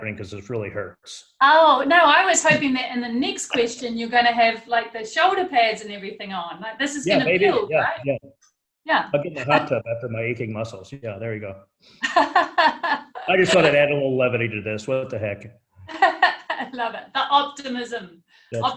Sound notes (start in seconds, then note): 12.0 laughing